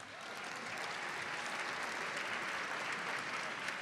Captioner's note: audience applauds